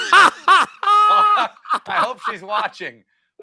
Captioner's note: laughter